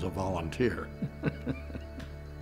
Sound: laughs

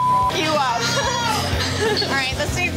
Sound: beep; laughs

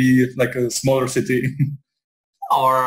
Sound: laughs

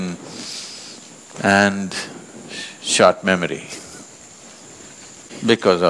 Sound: laughs

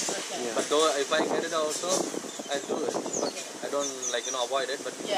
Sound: wind blows

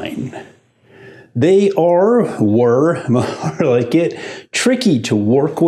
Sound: laughs

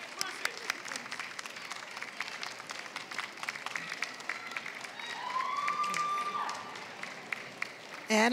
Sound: applause

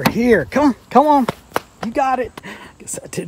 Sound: slaps leg

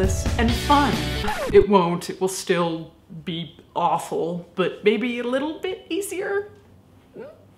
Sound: record scratch

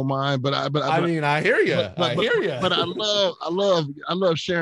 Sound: laughing

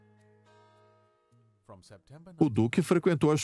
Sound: voiceover

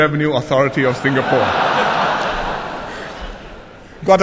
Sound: laughter

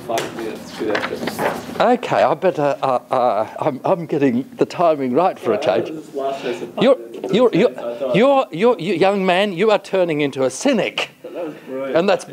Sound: indistinct student chatter

